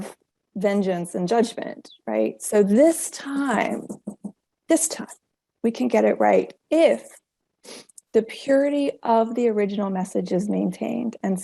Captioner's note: tapping fingers on table